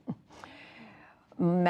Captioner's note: laughter